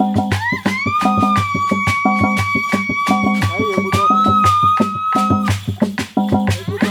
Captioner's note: shrieks